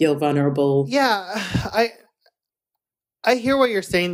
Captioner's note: sighs